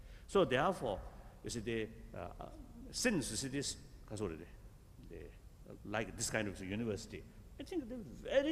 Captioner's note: foreign words